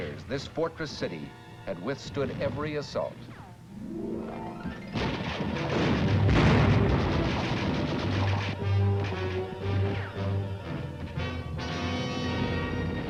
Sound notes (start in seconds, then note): 4.8 bullets ricochet; 9.8 dramatic music